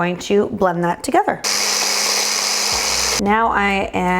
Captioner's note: blender roaring